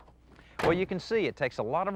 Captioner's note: door clang